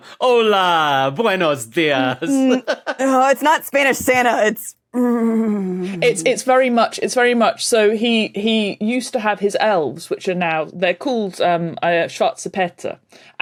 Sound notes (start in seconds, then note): 2.2 laughs; 5.0 grumbles